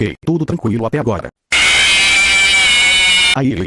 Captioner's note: FNAF Jumpscare sound